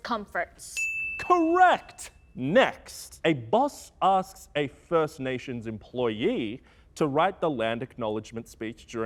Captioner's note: bell sound effect